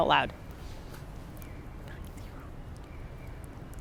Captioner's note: whispering